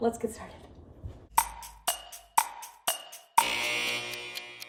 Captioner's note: ticking; buzzer